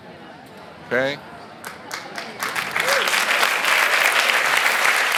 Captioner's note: audience applauds